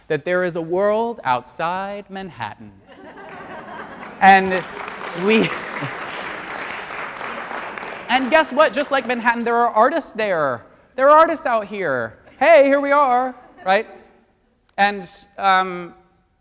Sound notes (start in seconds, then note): 2.8 audience laughs; 4.6 audience applauds